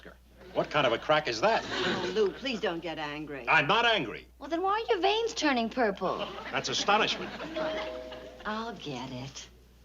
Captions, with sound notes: What kind of a crack is that? Oh, Lew, please don't get angry. I'm not angry. Well, then why are your veins turning purple? That's astonishment! -(doorbell rings) -I'll get it.